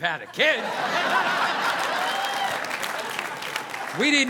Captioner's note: audience laughing